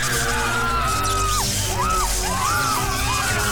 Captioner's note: screaming continues; screams hysterically